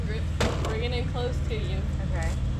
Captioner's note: motorcycle thudding